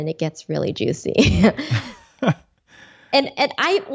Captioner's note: both chuckling